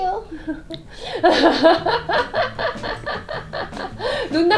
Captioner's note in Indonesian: tertawa